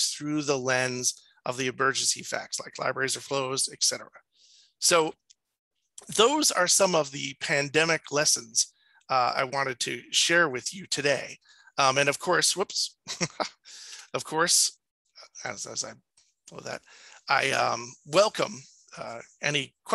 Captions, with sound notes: through the lens of the emergency facts, like libraries or flows, et cetera. So those are some of the pandemic lessons I wanted to share with you today. And of course, whoops (chuckles) Of course, (stammers) I welcome any questions and stuff,